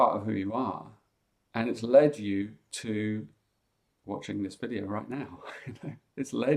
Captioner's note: chuckles